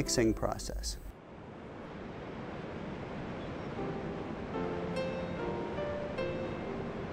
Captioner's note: waves crash